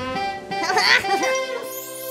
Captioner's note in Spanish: Risa pícara